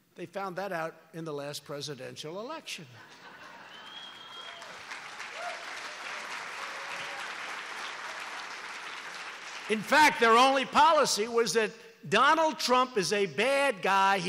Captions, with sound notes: They found that out in the last presidential election. (Laughter and applause) In fact, their only policy was that Donald Trump is a bad guy,